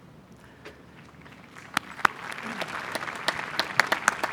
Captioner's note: applause